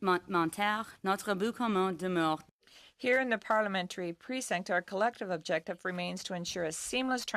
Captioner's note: speaking in French